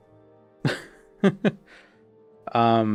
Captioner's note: laughing